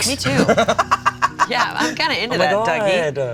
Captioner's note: laughs